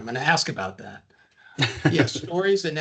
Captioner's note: laughing